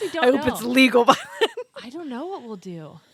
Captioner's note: both laughing